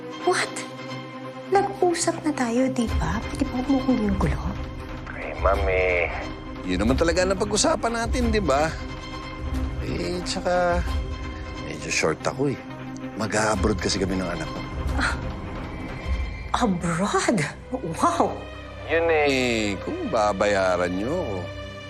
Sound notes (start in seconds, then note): 14.8 scoffs